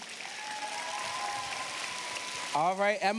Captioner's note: cheers, applause